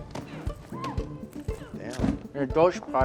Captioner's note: Nadia and the student groan